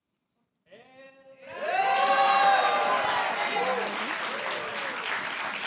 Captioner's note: applause